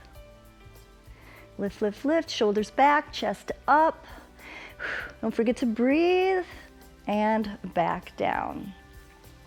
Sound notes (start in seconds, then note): 4.1 exhales